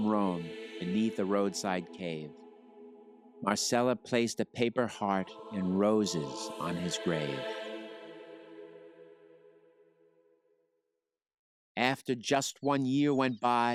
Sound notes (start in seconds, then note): none